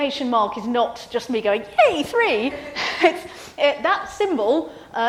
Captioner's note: laughs